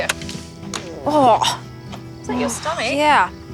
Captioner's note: burbling